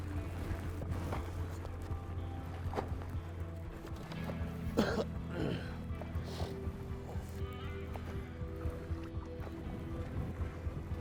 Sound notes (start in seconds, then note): 4.7 clears throat; 7.9 suspenseful music